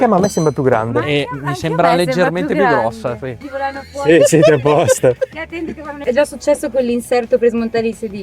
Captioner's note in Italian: risate